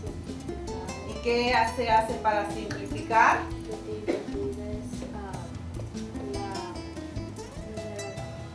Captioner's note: speaking spanish